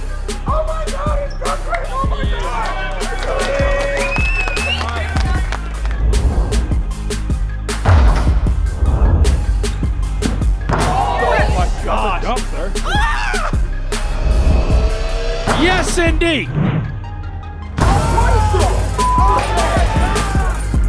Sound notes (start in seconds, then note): 2.0 crowd applauding and cheering; 11.6 crowd chattering; 19.0 beep